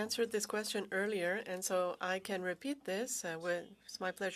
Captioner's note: speaking French